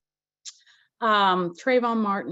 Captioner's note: lips smack